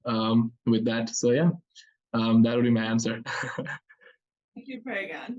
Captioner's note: laughs